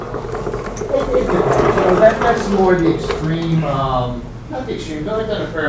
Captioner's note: rustling drowns out speaker